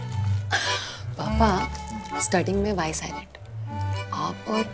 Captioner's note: Asmi laughs